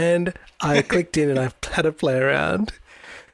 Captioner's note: laughs